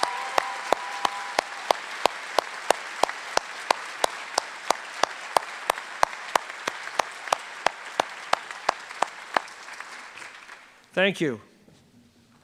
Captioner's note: cheers and applause